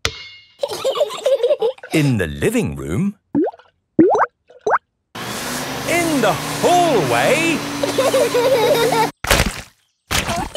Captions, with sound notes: (giggling) In the living room. In the hallway! (laughter)